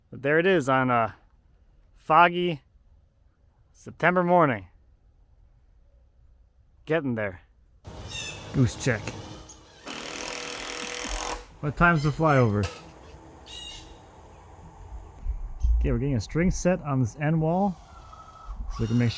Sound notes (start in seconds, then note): 7.9 geese honking; 10.0 tool buzzing; 13.9 goose honks